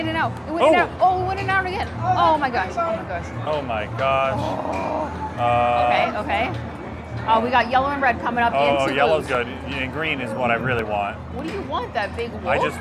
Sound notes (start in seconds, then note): 4.3 groans